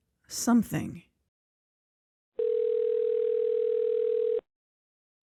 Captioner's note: phone ring